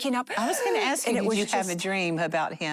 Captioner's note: gasps